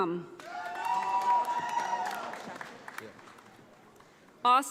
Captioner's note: audience applauding